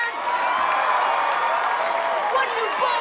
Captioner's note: students cheering